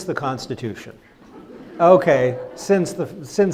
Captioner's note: crowd laughs